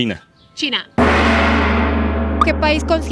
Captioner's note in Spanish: Sonido de gong